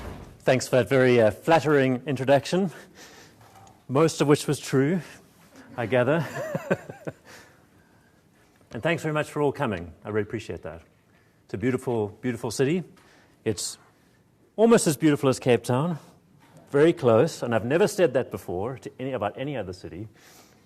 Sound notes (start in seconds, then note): 5.6 chuckles